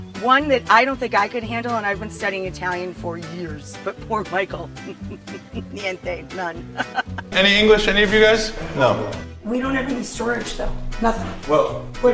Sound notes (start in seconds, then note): 4.4 laughing